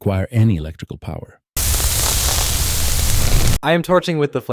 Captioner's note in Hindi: फ्लेम गन शूटिंग।